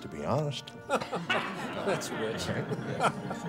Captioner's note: faculty laughs